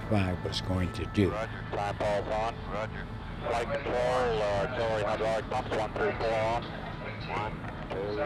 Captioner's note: people talking on radio